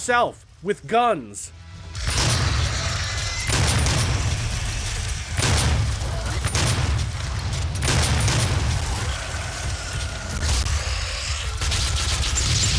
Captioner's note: game audio